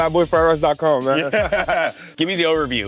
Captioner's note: all laughing